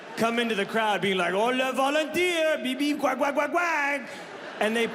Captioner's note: mimics gibberish in French